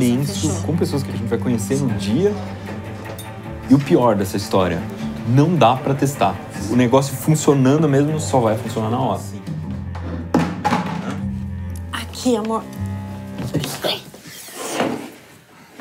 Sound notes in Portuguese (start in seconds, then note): 9.5 balde batendo no chão